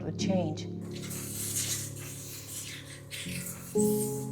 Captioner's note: machines buzz